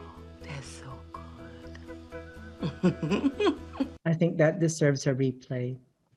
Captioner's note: speak laughes